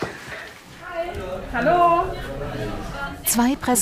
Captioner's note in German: Stimmengewirr